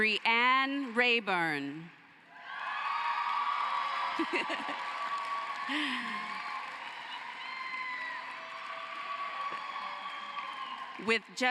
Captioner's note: cheering and applause